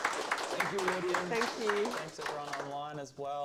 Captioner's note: applause